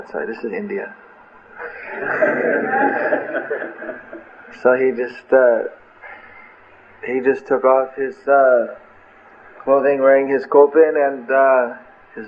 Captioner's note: laughter